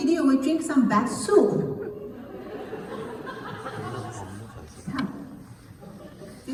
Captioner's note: laugh